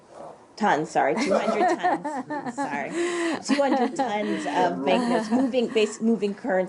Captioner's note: laughter